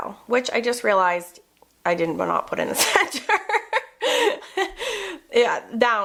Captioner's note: laughs